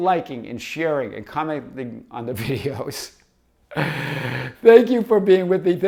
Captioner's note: laughs